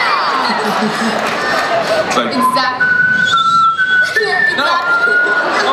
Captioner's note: whistling